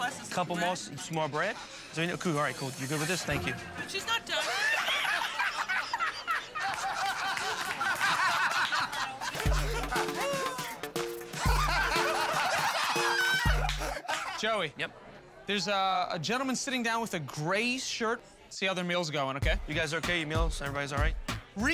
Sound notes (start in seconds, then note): 4.4 laughing; 9.3 upbeat music